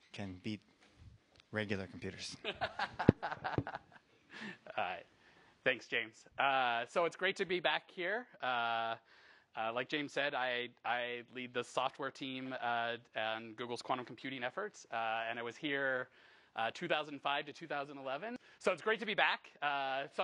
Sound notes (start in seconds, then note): 2.2 laughs